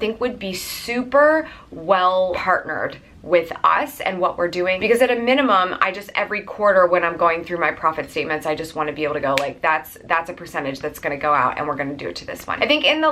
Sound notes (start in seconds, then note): 9.3 snaps